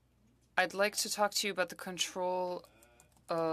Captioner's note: speaking french